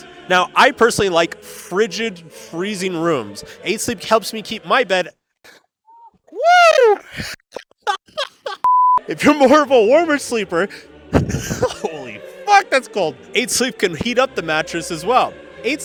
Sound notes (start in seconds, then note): 5.9 laughs; 8.7 monitor beeping; 11.4 laughs